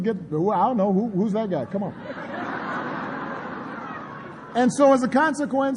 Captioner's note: laughter